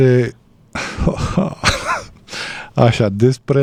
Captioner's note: laughter